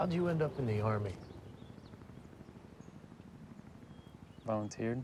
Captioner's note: helicopter flying